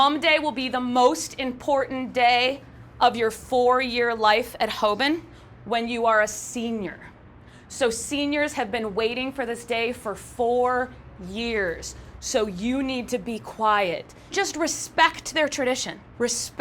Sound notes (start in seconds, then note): none